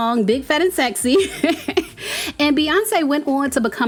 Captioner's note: laughing